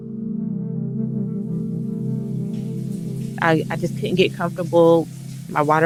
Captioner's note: shower water runs